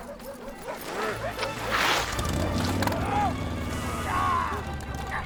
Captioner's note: engine turns over